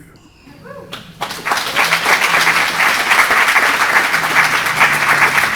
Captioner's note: audience applauding